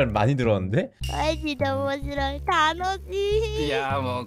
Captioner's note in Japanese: 日本語で会話中